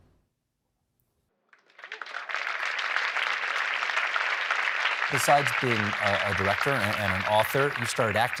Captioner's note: applause